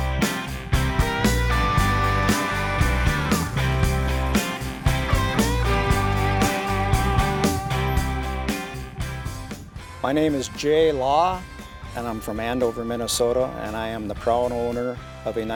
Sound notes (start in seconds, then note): 2.1 engine whirring